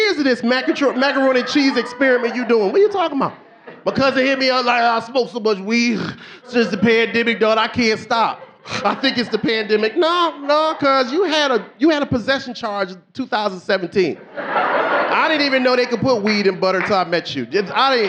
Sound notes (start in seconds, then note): 7.2 snorts; 9.8 snorts; 14.0 audience laughing